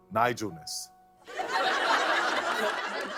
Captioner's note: laughter